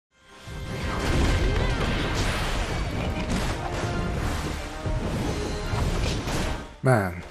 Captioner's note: combat Sounds